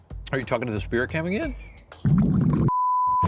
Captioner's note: liquid bubbling; screen beeping